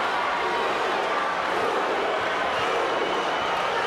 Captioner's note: crowd chanting